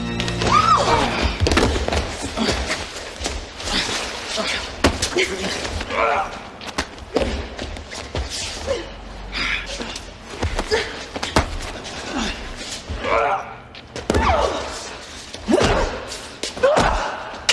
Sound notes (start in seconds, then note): 0.4 woman squeals; 0.6 man grunts; 9.2 man grunting